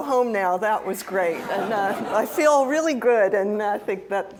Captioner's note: laugh